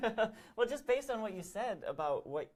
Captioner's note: laughs